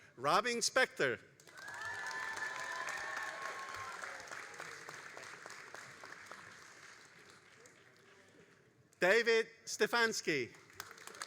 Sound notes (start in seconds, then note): 1.4 all applauding and cheering